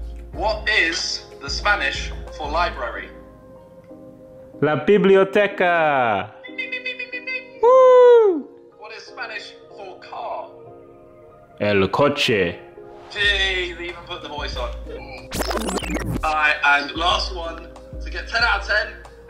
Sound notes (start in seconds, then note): 4.9 foreign language; 11.8 foreign language